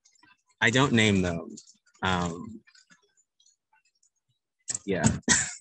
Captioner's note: laughs